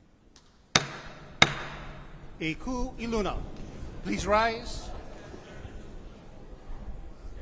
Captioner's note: gavel bangs twice